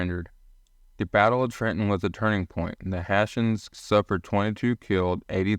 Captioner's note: voiceover